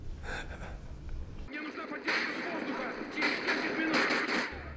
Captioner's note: laughs; gunfire and Shouting